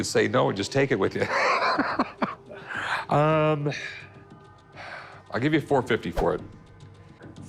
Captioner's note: laughs